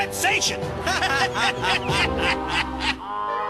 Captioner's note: both laughing